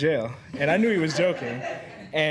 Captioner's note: students chuckling